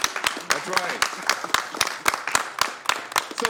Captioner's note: applause